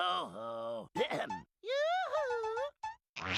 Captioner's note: clears throat